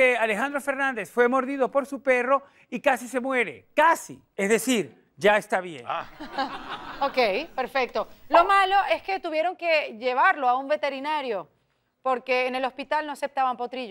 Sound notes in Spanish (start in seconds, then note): 6.0 Risas